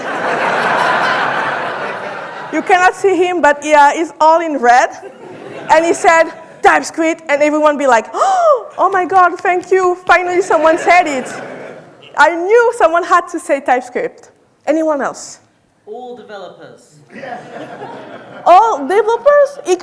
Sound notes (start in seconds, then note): 0.0 audience laughing; 8.5 gasps